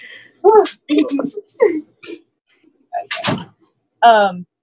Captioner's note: laughs